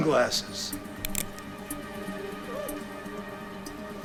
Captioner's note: gun clicks